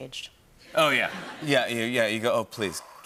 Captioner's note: laughter